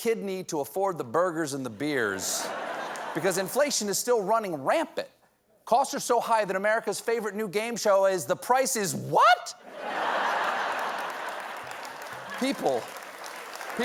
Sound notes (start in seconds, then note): 9.6 laughter; 10.0 applause